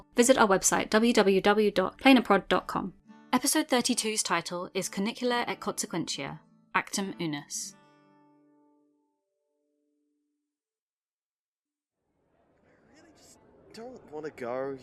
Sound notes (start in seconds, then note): 9.7 quiet chatter fades in